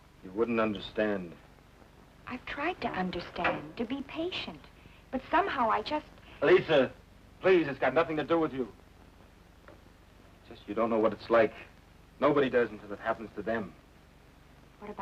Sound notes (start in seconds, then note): none